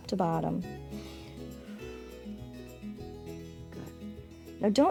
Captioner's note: inhales and exhales